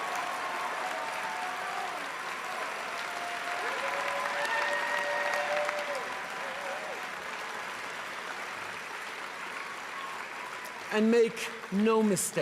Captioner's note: cheering and applause